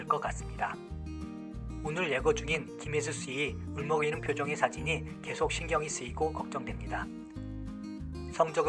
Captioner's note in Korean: 울먹이는